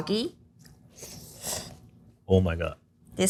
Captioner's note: chefs slurping